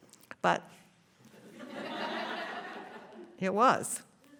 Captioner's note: laughter